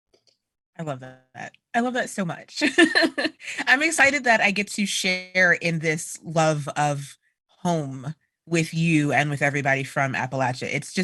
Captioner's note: laughter